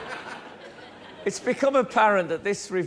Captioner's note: laughter